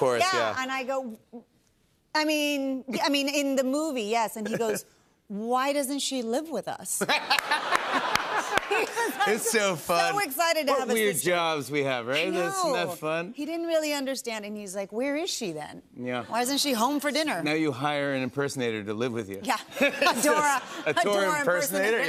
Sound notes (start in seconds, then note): 7.0 laughter